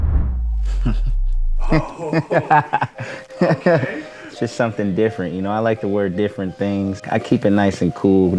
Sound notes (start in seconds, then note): 1.6 laughter